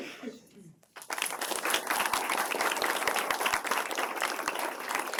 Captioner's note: applause